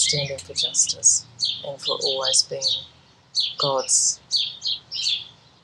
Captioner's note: birds chirping loudly